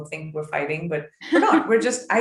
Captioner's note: laughing